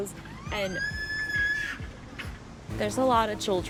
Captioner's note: child screaming